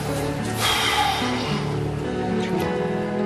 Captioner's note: exhales sharply; somber music continues